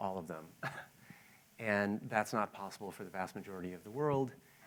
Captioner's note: laughs